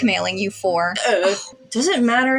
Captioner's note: scoff